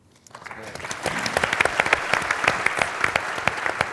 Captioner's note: applause